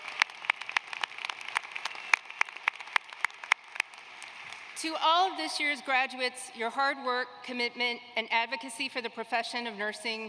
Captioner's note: applause